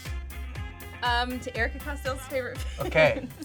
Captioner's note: laughs